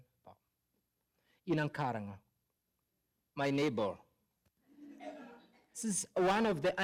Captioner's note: laughter